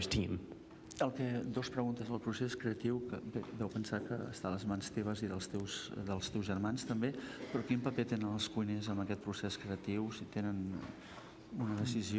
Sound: speaking catalan

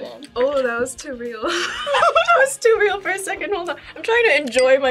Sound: laughs

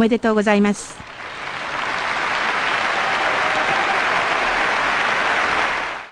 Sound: applauses

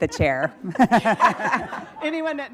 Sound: group laughing

